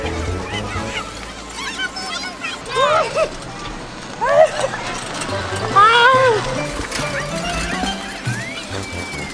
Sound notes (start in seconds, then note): 3.3 laughing; 6.6 circus music